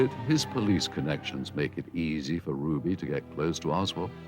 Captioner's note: police sirens blaring